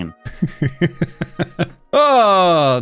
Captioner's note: laughing